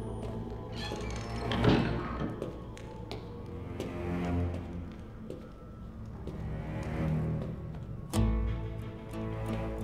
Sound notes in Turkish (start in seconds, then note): 0.7 Kapı kapanma sesi; 2.7 Müzik - Gerilim